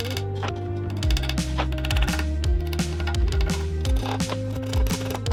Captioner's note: drill whirring